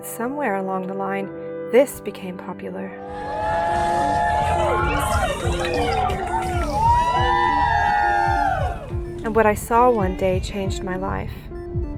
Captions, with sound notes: somewhere along the line, this became popular. (crowd cheering) And what I saw one day changed my life.